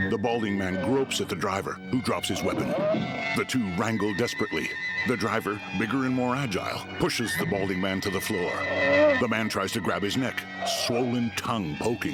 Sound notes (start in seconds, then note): 0.7 hellish groaning